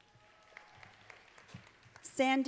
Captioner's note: students applauding